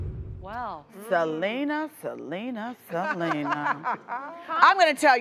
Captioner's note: laughing